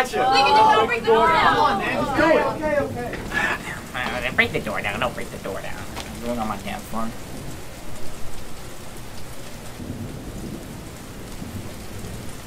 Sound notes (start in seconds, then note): 7.2 rain fills awkward silence